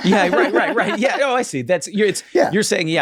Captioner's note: everyone laughs